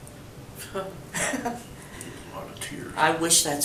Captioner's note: laughs